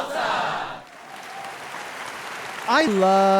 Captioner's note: audience applauding